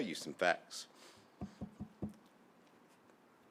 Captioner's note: tapping podium